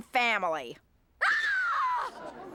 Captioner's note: woman screaming